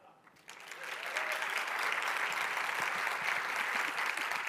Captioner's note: audience applauding